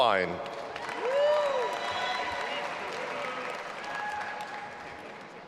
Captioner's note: audience applauding and cheering